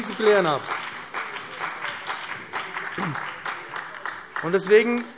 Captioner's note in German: Beifall